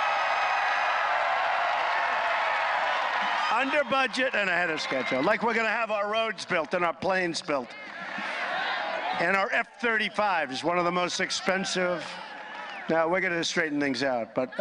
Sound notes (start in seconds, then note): 2.7 applause